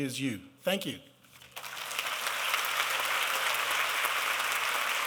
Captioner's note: applause